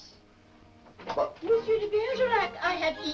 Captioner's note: door opens